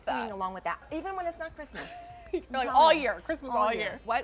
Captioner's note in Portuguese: risos